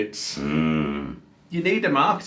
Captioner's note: groans